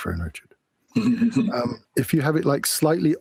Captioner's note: laughs